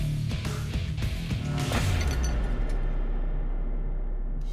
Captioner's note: tiles clatter echoingly